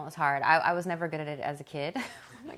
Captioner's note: laughs